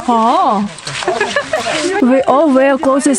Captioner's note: laugh